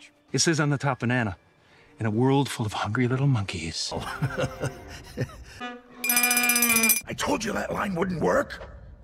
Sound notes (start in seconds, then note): 4.5 laughing